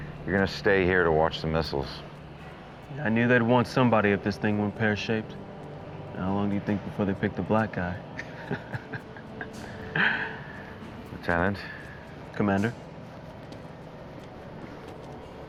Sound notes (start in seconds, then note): 8.1 laughing